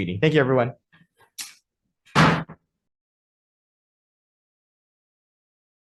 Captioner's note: gavel thuds